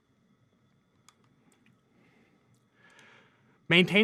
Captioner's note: computer mouse clicking